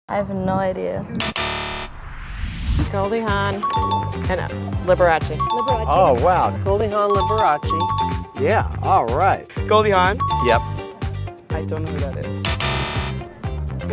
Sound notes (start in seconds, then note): 1.2 buzzer sound; 3.6 bell ding; 5.4 bell ding; 7.1 bell ding; 10.2 bell ding; 12.5 buzzer sound